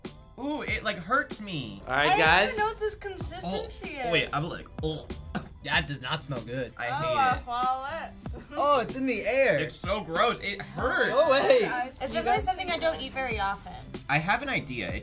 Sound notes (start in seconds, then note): 5.0 gags